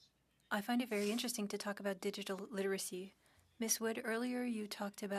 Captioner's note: speaking French